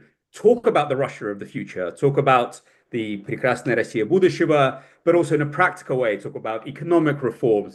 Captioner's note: speaks in Russian